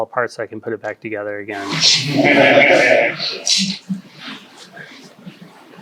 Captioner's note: audience laughs